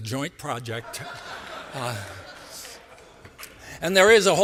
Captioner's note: laughter